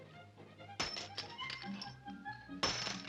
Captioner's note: coin clanks